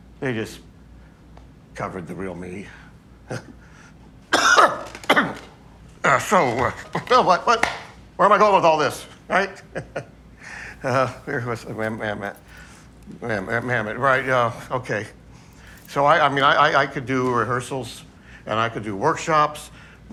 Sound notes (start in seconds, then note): 11.9 stutters